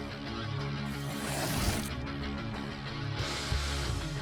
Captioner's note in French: musique rock intense; souffle d'air